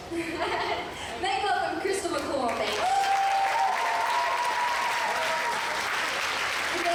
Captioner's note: applause